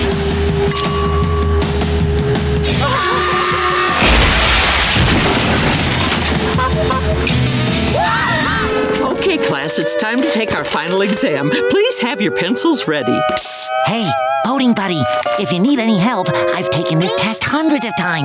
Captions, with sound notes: [dinging] [screaming] [honking] [screaming] Okay class, it's time to take our final exam. Please have your pencils ready. Psst, hey, boating buddy? If you need any help, I've taken this test hundreds of times...